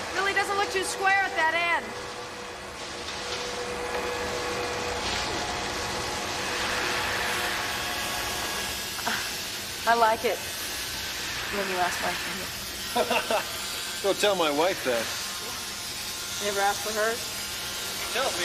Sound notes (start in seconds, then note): 12.9 Jerry laughs